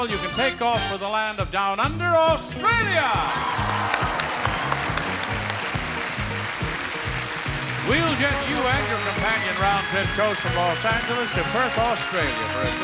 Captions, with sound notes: you can take off for the land of down under, Australia. (clapping) We'll get you and your companion round trip chose from Los Angeles to Perth, Australia